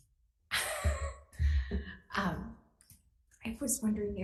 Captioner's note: chuckles